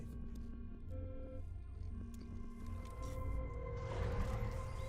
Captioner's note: beeping and whirring